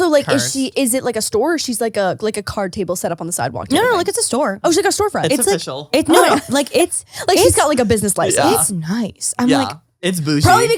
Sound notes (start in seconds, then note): 6.0 laughs